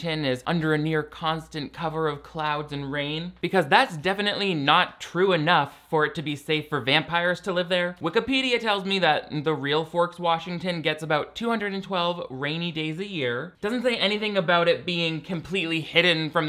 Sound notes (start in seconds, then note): none